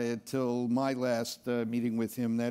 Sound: none

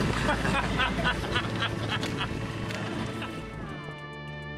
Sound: men laughing; pensive music

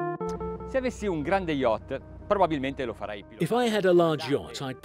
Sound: speaking in foreign language

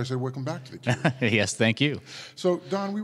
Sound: laughs

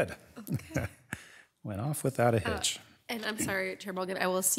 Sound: chuckles

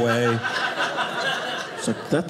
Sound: audience laughing

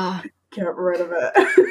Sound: laughs

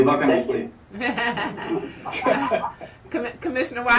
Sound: chuckles

